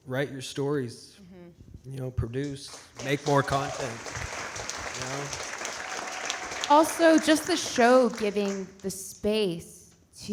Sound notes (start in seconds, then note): 2.7 audience cheering and clapping